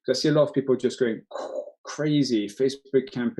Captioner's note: mimics explosion